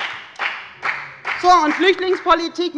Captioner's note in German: Beifall bei der FDP